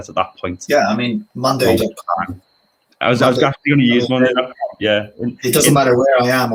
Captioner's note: overlapping chatter